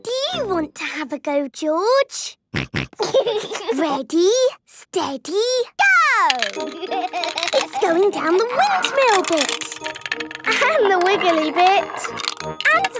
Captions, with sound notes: Do you want to have a go, George? (snorting and giggling) Ready, steady... - Go! (laughing) - It's going down the windmill bit! - And the wiggly bit!